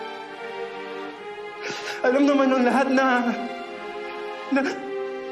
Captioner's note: somber music playing; breath quivers